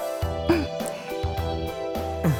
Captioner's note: clears throat